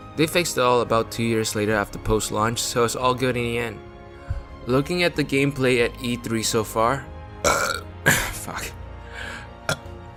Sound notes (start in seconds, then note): 7.4 burp